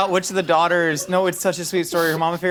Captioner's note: laughing